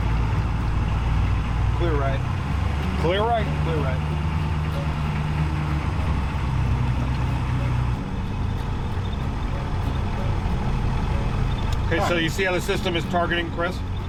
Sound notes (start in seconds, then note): 5.1 soft guitar music; 5.1 truck rumbling